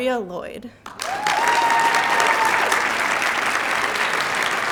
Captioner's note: cheers, applause